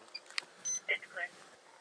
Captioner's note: radio chatter